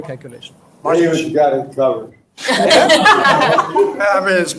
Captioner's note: audience laughs